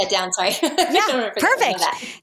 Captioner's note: laughs